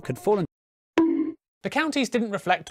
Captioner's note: bonk